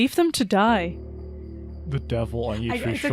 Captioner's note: laughs